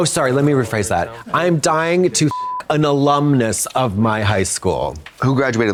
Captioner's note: beep